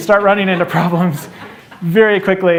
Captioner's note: laughter